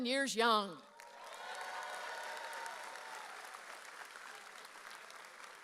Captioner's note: audience cheers